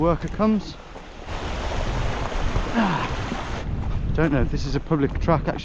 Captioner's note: stream gurgling